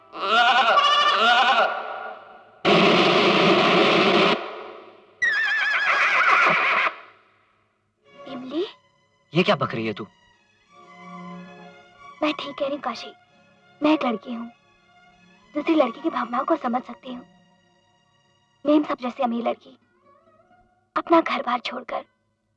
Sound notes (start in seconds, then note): 0.0 sheeps bleating; 5.2 horse neighing